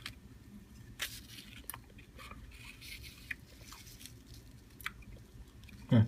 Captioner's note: crunching sound